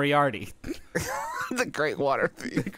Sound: laughing

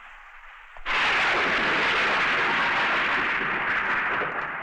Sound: thunder Rumbling

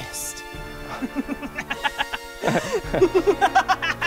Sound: cackles; chuckles nervously

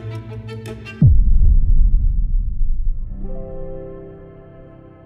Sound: heavy thud echoing; music abruptly ending

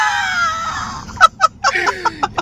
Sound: laugh

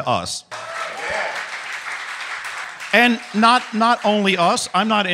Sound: crowd clapping

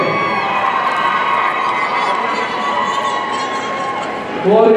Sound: audience cheering

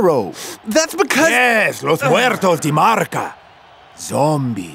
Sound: foreign language

